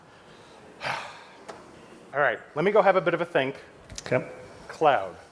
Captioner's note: sighs